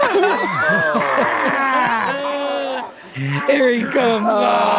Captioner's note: all laughing softly; Frank exclaims loudly